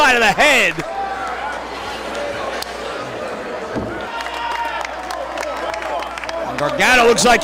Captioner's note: applause